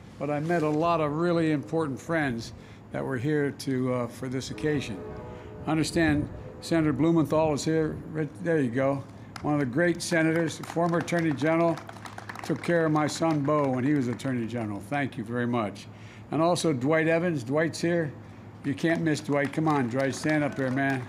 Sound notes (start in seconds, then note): 9.3 applause